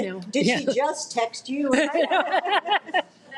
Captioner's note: all laugh